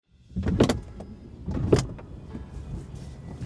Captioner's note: car doors open